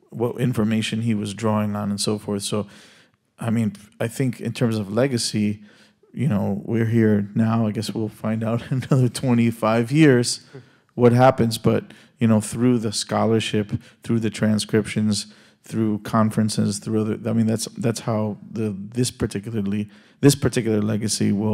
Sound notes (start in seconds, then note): 8.4 laughs